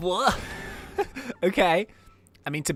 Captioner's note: laughs